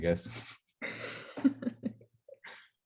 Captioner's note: group chuckle